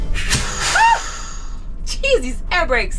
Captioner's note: yelling